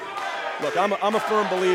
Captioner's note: fans chanting